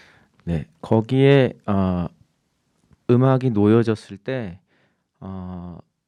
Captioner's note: speaking in Korean